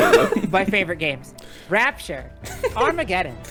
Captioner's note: laughing